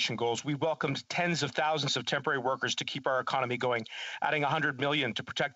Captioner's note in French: voix de l'interprète